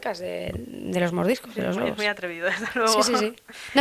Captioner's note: laughs